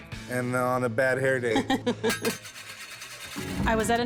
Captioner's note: chuckles